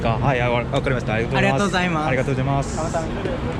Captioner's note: Korean